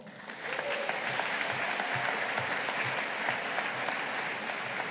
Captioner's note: audience applauding